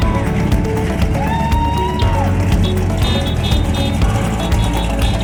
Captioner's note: car chugging; crowd cheering